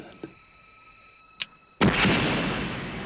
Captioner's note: beeping; click; explosion